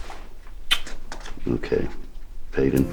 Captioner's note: lips smacking